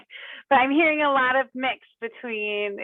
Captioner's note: laughs